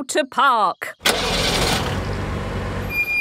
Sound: car engine starting; breaks squeaking

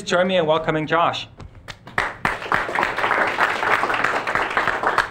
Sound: audience applauding

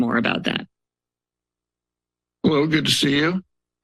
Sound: silence

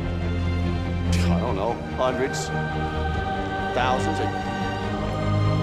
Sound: scoff

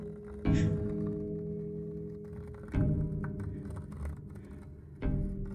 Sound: woman sobs

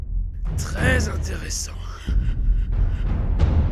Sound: laughs

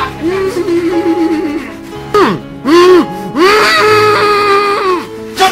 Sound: muffled screaming

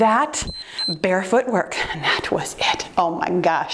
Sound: timer beeps

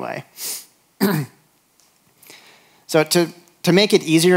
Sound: clears throat

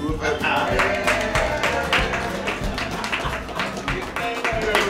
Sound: applause

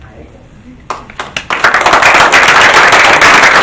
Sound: group applauding

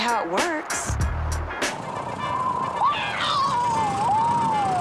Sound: screaming

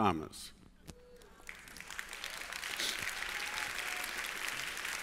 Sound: applause

